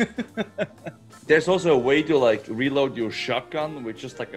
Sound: laugh

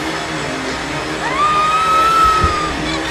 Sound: vacuuming; screams; body falls

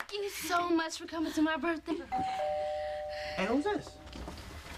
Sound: doorbell rings

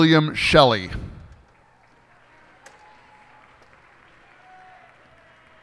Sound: cheers and applause

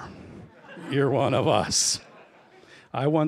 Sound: laughter

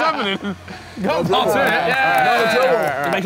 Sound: clapping

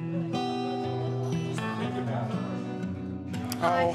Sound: bar chattering

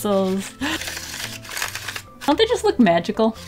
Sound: laughs, finger rolling over pencils

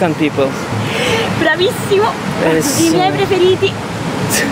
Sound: speaking Italian

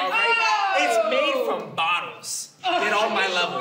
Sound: disgruntled yelling

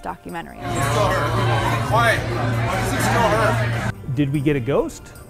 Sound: restaurant chatter

